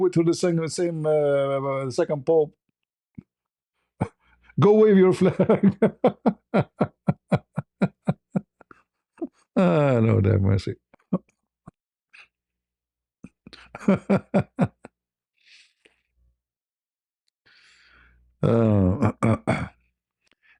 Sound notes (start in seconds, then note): 4.7 berdehem; 4.9 ketawa; 13.5 ketawa